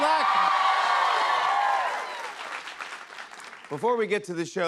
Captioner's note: cheers and applause